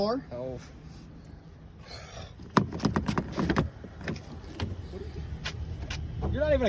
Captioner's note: mumbles